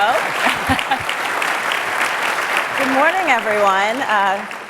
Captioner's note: audience applauds